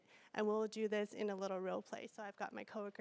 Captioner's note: none